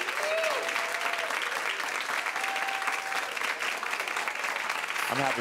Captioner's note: audience continues cheering